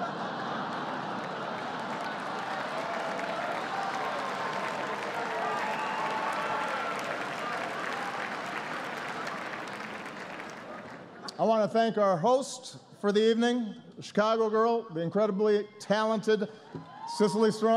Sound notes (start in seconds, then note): 0.0 laughter and applause